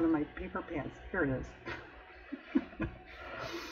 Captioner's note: laughs